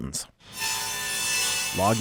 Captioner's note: chainsaw whirring